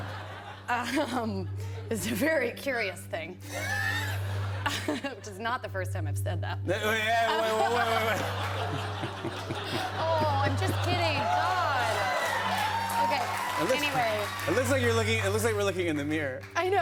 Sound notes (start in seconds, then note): 7.3 laughter; 11.6 cheers and applause